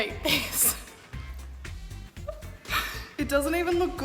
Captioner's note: laughing